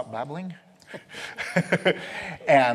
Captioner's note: laughs